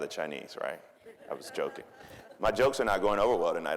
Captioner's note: audience chuckling